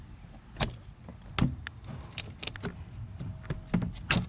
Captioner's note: plastic bumping